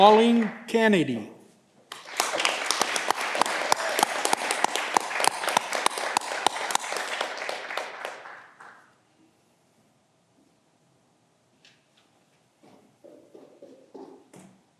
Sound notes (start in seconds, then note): 1.8 audience clapping